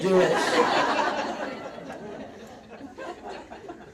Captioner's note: audience laughs